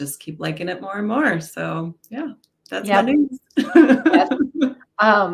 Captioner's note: laughs